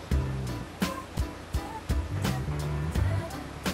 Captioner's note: music & the sound of the Diesel engine